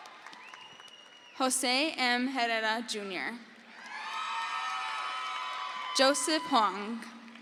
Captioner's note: crowd cheers